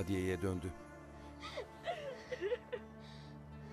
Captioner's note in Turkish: Ağlama sesi